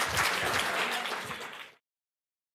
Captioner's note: applause